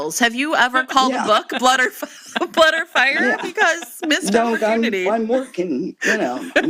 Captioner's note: laughter